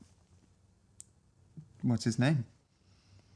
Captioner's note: none